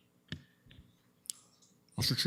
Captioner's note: audio drop